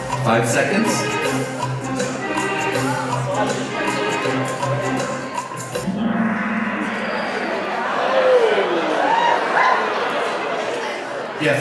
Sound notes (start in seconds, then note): 5.7 gong bangs; 8.7 audience cheers